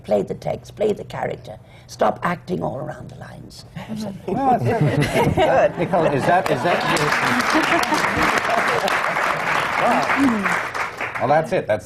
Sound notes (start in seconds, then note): 4.3 laughter; 6.4 applause